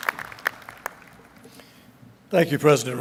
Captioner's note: applause